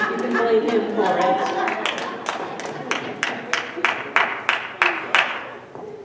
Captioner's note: audience members laugh, some scattered applause